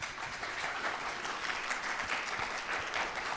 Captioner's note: applause